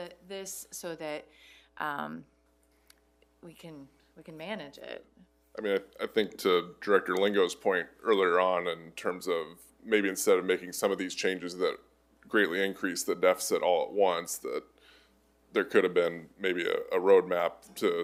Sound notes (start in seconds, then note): none